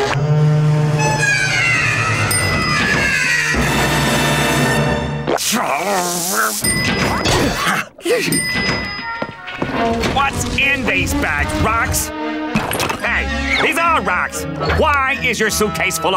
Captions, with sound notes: [grunting] What's in these bags? Rocks? Hey, these are rocks!